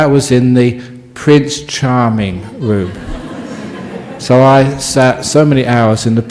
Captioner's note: audience laughing